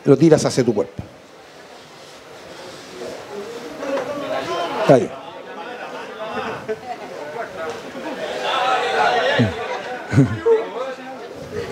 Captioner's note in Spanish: Público animando